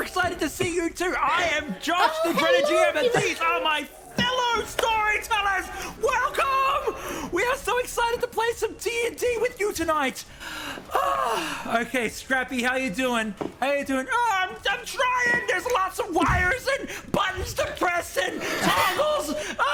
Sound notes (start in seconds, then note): 10.2 breath; 13.7 scrappy goblin voice